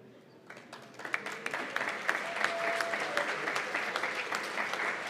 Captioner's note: applause